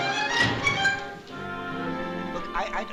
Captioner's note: zany music playing; slam